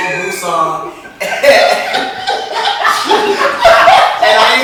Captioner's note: laughs